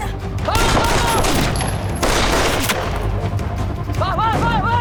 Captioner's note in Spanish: Disparos